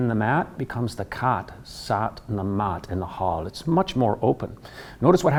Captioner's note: in Irish accent